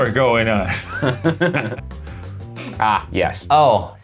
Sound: laughing

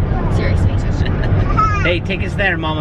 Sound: chuckles

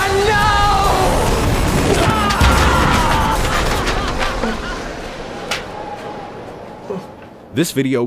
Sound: laughing fades away

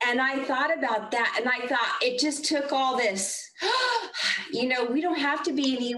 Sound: breathes deeply

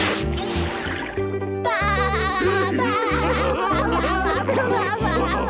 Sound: laughing

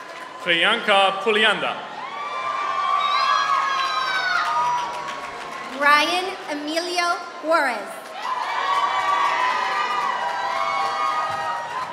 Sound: applause

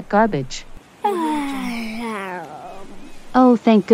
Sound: yawning

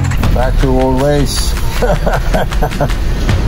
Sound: laughs

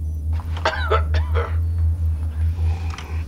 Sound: cough

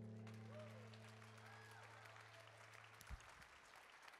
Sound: audience claps

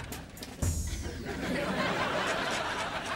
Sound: laughing

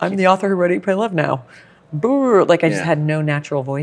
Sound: makes uncomfortable sound

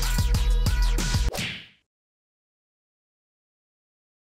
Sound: tongue slap sound effect

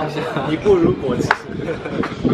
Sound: laughing; laughing

